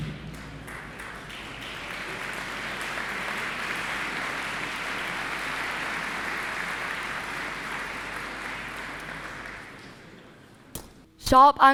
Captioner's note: applause